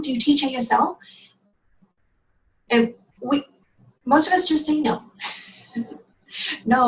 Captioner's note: silent laugh